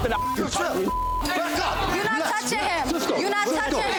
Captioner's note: beep